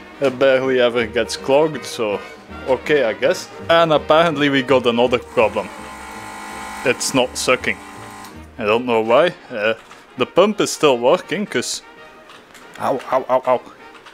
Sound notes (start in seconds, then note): 5.9 pump noise